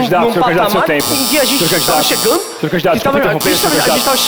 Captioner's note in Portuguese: campainha